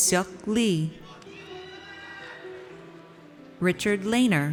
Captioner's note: audience cheers